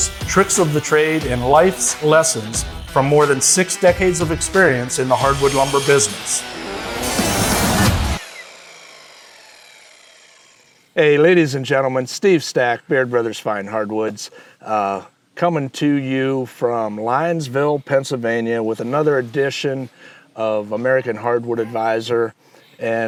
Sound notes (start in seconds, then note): 6.4 saw grinding; 7.1 rock music